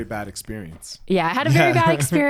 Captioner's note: laughs